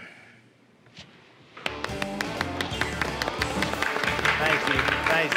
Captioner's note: applause